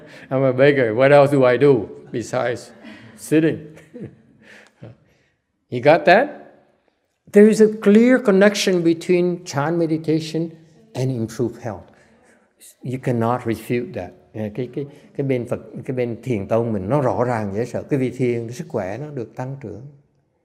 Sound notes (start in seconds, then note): 0.0 chuckle; 3.6 laughter